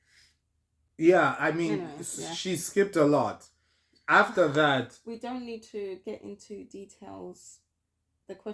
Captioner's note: sigh